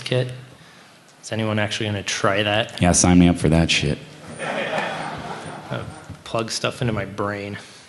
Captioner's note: laughter